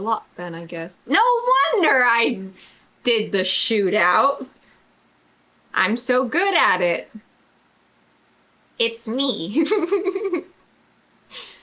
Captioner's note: laughs